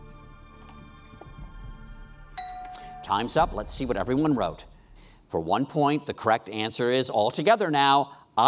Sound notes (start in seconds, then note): 2.3 bell dings